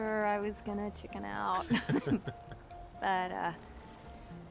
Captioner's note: chuckling